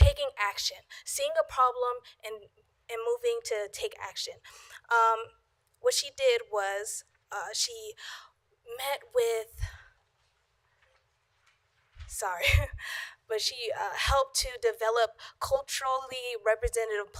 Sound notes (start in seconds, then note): 11.0 laughter